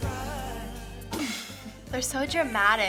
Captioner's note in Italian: risatina schiva